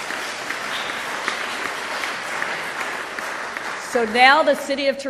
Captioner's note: applause